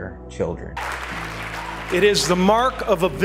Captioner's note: applause